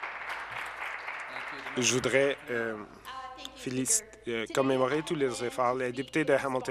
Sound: applause

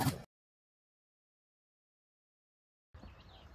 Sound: it is the sound of nature

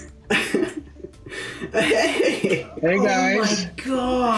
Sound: laughs

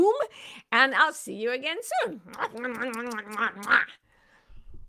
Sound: smooches

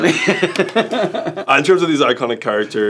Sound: Michael laughs

